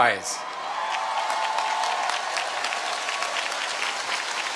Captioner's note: cheering